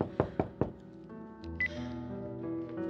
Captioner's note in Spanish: Toques en la puerta